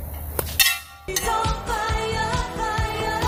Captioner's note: sling snaps; metal rings loudly